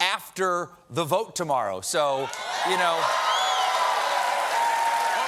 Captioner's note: cheers and applause